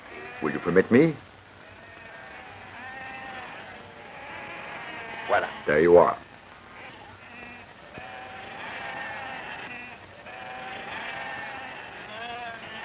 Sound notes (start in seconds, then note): 1.6 sheep bleating